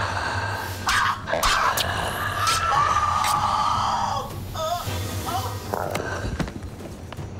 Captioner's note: screaming; flesh squelching; body thuds